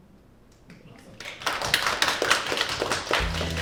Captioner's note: audience applauds; upbeat music